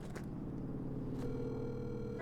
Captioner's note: phone line trilling